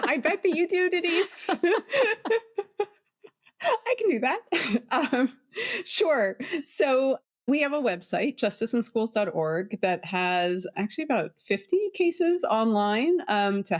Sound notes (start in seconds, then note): 3.1 laughs; 5.4 laughs